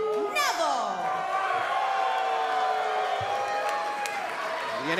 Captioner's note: cheers & boos